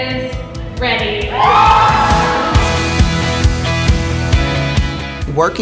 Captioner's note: audience cheers